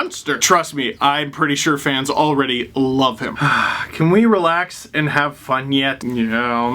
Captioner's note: sigh